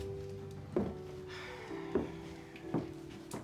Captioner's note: sighs